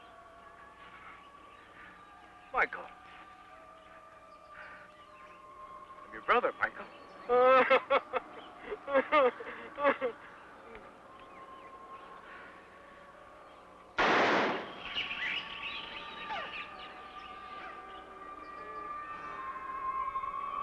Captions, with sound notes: Michael. I'm your brother, Michael. (laughing) (gun firing) (eerie music)